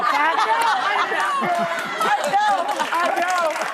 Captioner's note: laughing